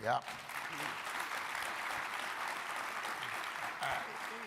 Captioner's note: crowd applauding